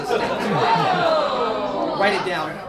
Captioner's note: audience groans